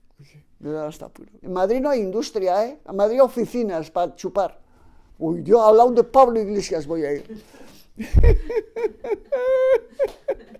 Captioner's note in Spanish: risa